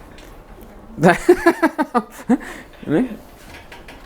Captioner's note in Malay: ketawa